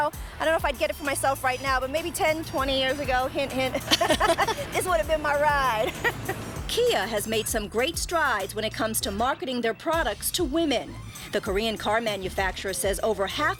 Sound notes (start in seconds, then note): 3.7 laughter